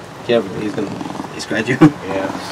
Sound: jaguaroundi Purrring

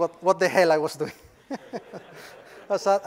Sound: laugh

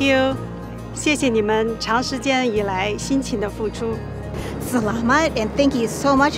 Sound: man speaking in foreign language; woman speaking in foreign language

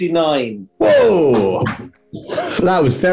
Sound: clapping

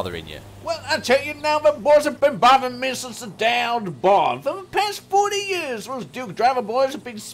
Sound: country accent

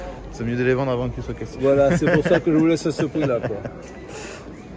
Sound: laughs

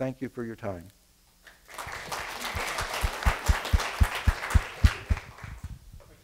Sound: applause

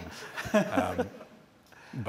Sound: laughter

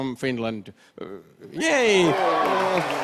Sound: crowd cheers

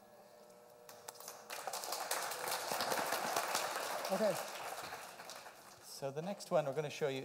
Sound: applause

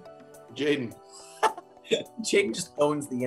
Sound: Nathan laughs

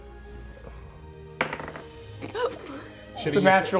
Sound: dice rolling

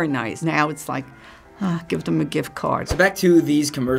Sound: sighs

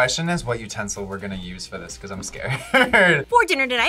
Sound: laughs

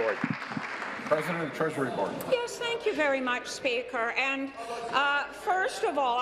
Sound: applause

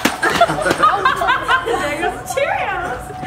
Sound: laughing

